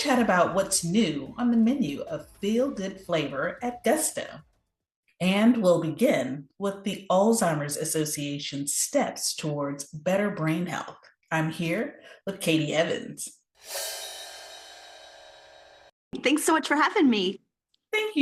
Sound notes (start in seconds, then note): 13.6 screen whooshing